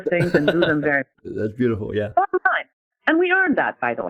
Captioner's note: laughing